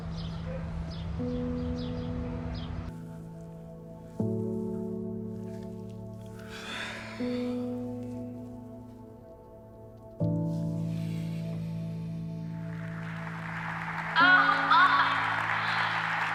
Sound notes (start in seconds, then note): 0.0 birds chirping; 6.4 Jack sighing; 10.3 somber music continues; 12.5 audience applauding